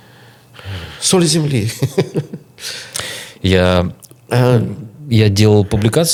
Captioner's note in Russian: смех